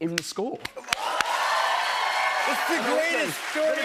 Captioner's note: cheers and applause